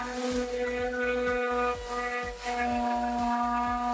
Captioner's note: machine whirring